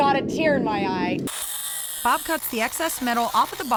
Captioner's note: metal cutting